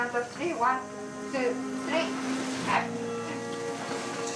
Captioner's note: strains